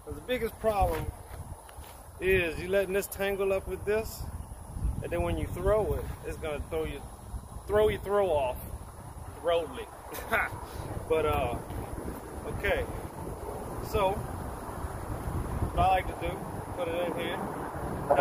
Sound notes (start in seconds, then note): 0.0 whip cracks; 10.1 laughs